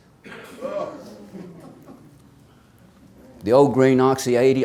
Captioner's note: audience exclaims